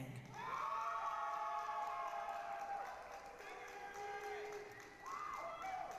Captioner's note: applause, cheering